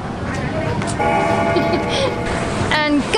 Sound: bell gongs; giggles

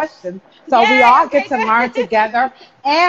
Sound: laughing

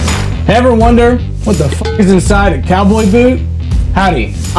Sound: intense music; beep

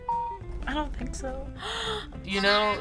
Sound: React gasps

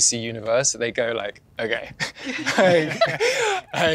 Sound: laughs

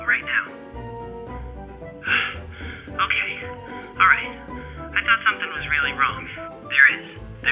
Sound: panting

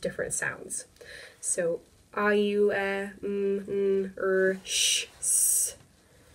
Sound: making vowel sounds

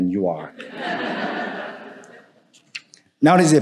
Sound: audience applauding

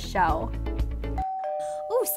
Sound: doorbell

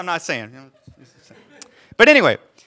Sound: audience laughing

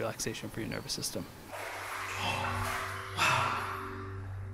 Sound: laughs

